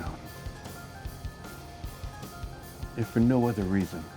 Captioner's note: device beeping distantly